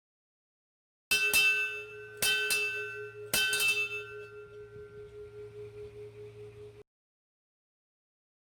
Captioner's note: bell Rings three times